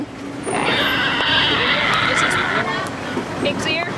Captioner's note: pig squealing